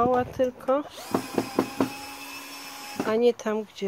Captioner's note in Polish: Odgłos wkrętarki